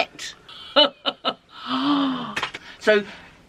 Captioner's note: laughs, gasps